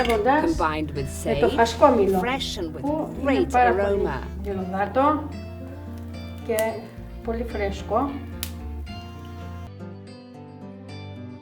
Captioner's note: talking Greek